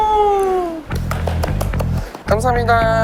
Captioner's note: clap clap clap